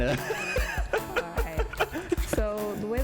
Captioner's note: laughs